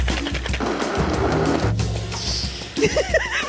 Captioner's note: blender grinds; laughing